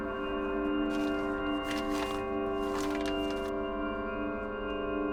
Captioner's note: none